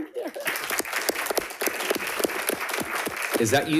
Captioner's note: crowd clapping; crowd cheering